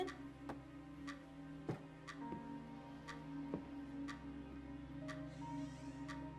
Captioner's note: clock ticking; gentle melodic music